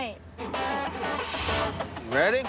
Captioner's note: engine starts